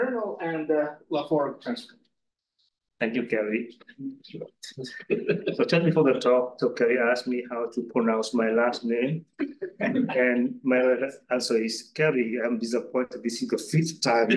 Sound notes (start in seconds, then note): 4.9 audience member laughing